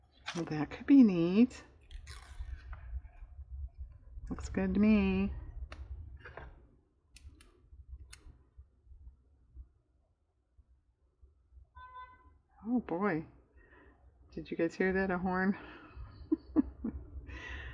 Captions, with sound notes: well that could be neat looks good to me (car horn/"beep, beep") oh boy, did you guys hear that a horn (laughs)?